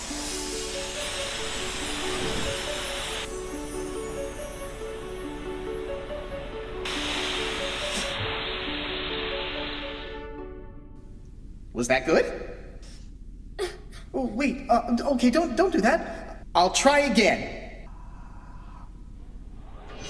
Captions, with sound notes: (magical music) Was that good? (quiet sobbing) Oh wait! Okay, don't do that! I'll try again.